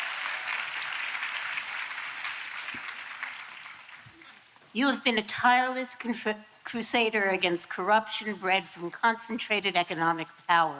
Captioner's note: applause